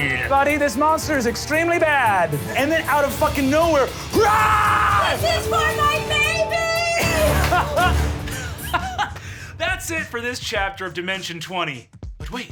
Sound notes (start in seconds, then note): 4.1 screaming